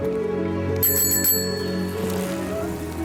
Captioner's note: bicycle bell